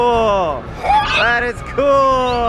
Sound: squealing

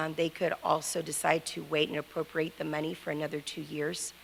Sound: none

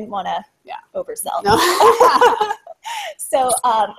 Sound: laughter

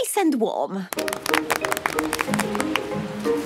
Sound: applause

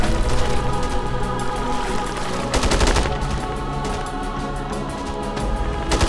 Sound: guns firing; vocalizing

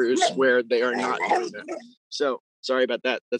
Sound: dog growls

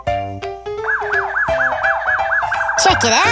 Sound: siren wailing

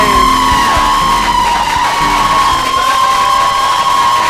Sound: cheers and Applause

